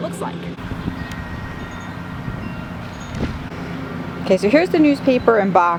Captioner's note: lawn mower engine roars